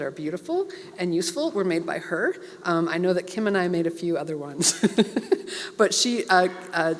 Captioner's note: laugh